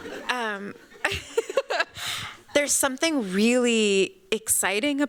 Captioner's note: laughs